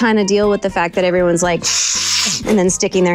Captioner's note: sniffing